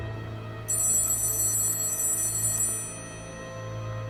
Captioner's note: a phone rings ominously